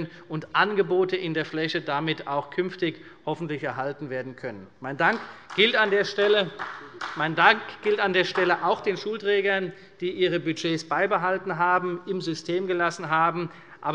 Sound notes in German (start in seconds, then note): 5.0 Beifall bei Abgeordneten der CDU